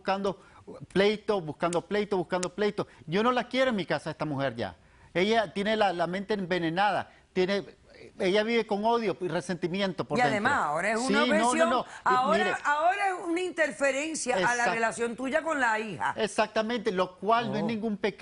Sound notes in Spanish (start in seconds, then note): 10.9 Hablan al unísono